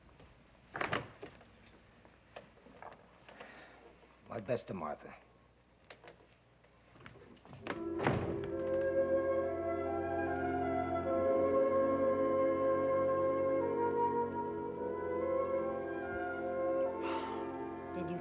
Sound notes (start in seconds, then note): 0.6 door opens; 7.6 door closes